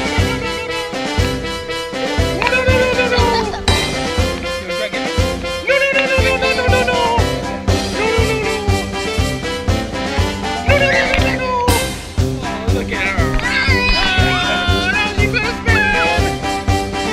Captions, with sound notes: No, no, no, no. No, no, no, no, no, no. (girl laughing) No, no, no, no. No, no, no, no, no. No, no, no, no. (girl squeals) Oh, look at her. (girl murmurs) Whoa, and now she's gonna spin!